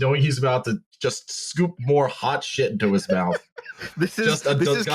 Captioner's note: laughing